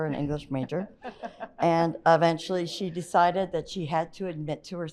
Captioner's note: chuckles